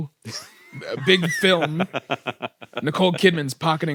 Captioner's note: laughs